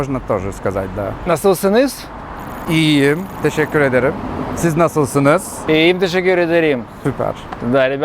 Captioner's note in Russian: говорят по-турецки